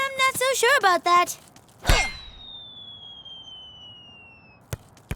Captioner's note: ball soaring through air